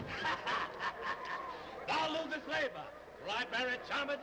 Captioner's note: laughs